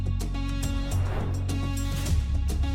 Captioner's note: suspenseful music continues; transition whooshing